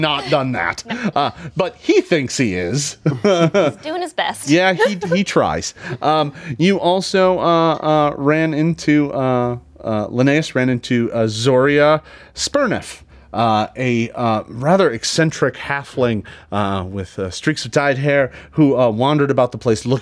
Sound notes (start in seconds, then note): 0.0 laughs; 4.5 laughs